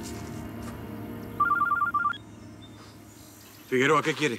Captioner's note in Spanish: suena su celular